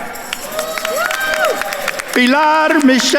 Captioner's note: attendees cheering and applauding